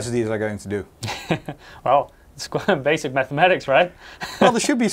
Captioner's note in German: lacht